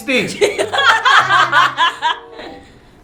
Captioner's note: laughs